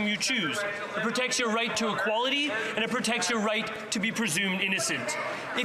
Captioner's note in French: voix de l'interprète